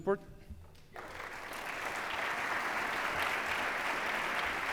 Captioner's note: applause